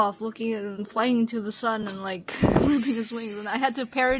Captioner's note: sizzling noises